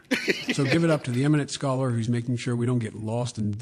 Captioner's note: laughter